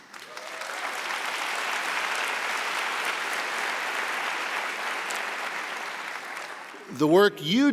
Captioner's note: applause